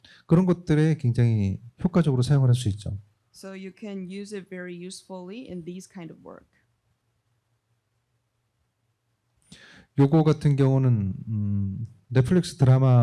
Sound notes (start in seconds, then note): 0.2 speaking korean; 9.7 speaking korean